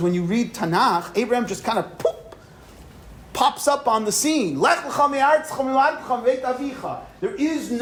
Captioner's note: poof